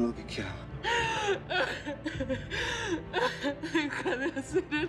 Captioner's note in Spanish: sollozos